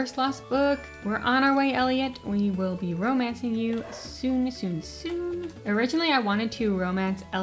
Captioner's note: dog barks